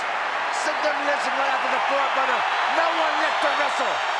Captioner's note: crowd drowning out speakers